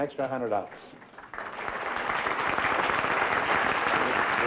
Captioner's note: applause